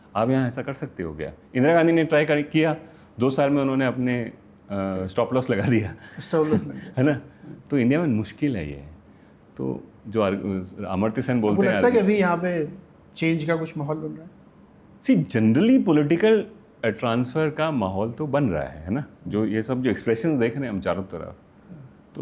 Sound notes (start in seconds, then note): 6.1 laughs